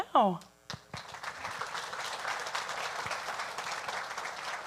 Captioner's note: audience applauding